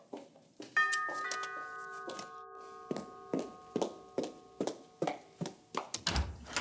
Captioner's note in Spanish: Timbre de la puerta